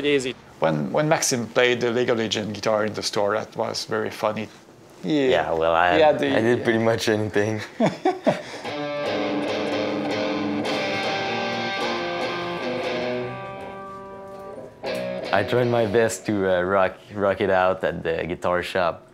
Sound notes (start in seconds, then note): 7.6 laughs